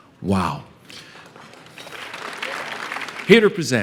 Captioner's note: applause